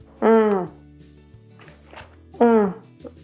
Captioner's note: moans